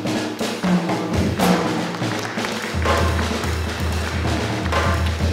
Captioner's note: applause